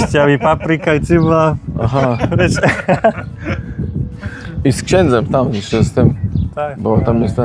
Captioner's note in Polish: śmiech